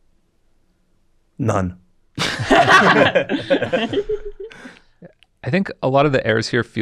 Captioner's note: everybody laughs